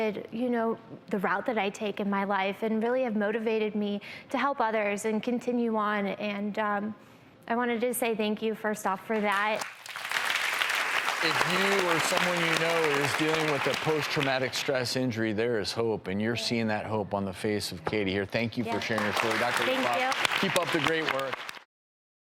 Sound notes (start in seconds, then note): 9.1 audience claps